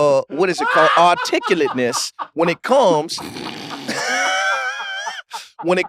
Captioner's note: laughs